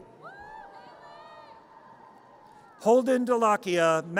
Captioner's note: audience cheers